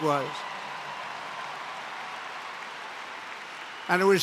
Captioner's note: applause